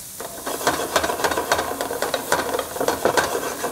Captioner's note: sizzling sounds